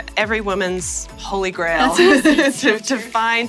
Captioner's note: laughter